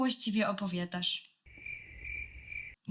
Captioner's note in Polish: cykanie owadów